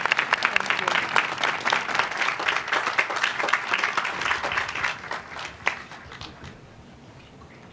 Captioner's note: applause